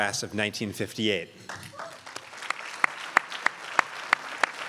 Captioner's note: crowd applauds